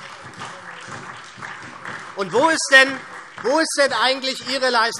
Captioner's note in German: Beifall SPD